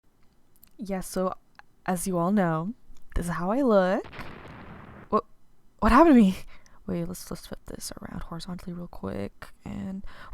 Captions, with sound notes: Yeah so as you all know… this is how I look [explosion] wh- what happened to me! … wait lets flip this horizontally real quick and…